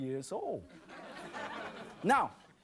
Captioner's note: audience laughs